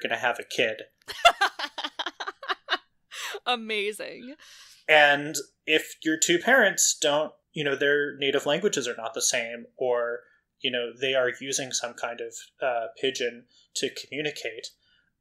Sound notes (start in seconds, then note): 1.1 laughs